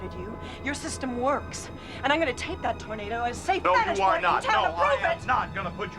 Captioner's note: siren wailing in distance